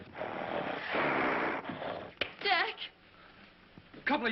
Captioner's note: snorting